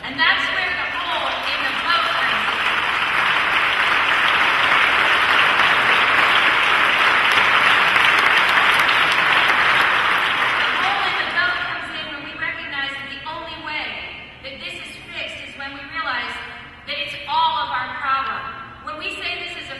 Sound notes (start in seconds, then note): 5.1 applause